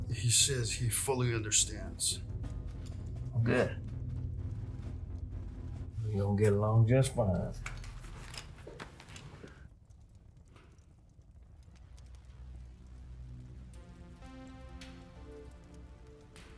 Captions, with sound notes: He says he fully understands. Good. We gonna get along just fine. [Fire softly crackles]